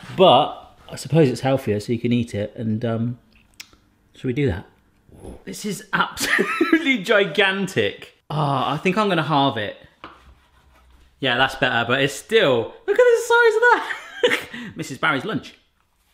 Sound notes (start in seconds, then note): 14.3 laughs